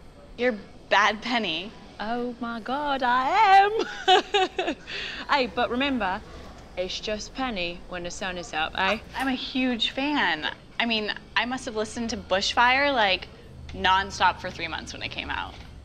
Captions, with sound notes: You’re Bad Penny! [exaggerated English accent] Oh my god, I am! (laugh) Hey, but remember, it’s just “Penny” when the sun is up, ey? I am a huge fan! I mean, I must have listened to “Bush Fire” like... non-stop for three months when it came out.